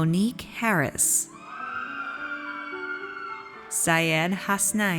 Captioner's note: audience cheers